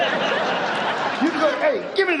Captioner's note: audience laughs